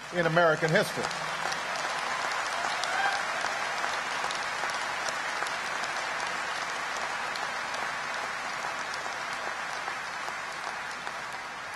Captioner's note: applause